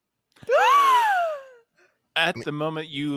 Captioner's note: gasps